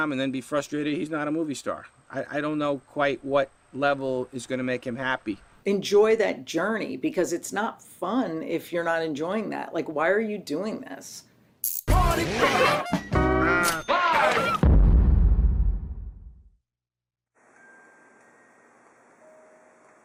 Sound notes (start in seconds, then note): 11.8 hip hop beat; 14.6 boom; 17.4 gentle music